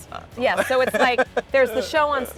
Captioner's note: laughing